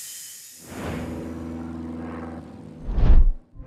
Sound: airplane flying

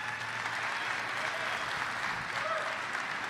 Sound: applaue

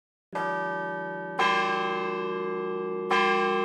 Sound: bells chiming

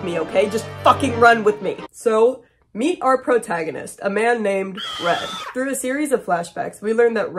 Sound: scream sound

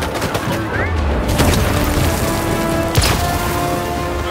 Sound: distant explosion

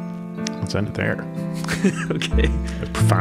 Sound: mellow, funky piano music; chuckling

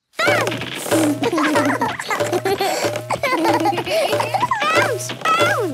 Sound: both laugh

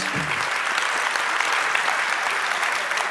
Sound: applause

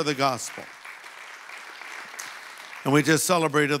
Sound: audience applauding

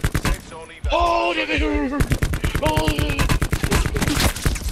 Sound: silly noises

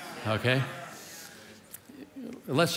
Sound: congregation muttering in agreement

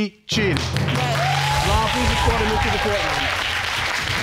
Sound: audience applauding

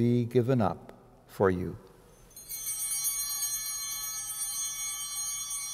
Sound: altar bell chiming

